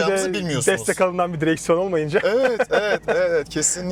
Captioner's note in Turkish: kahkaha